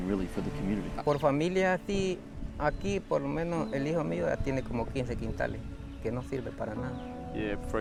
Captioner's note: speaking Spanish